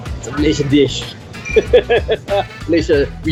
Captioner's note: laughs